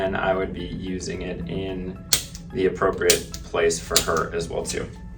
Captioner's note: activator clicking